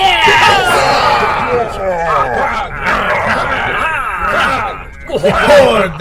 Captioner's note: Klingon cheers